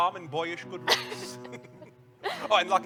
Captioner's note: laughs